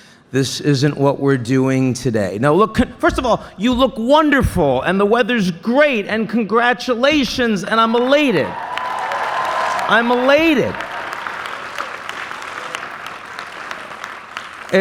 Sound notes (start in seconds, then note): 7.8 cheering; 10.6 applause